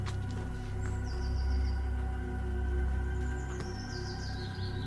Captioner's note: birds chirping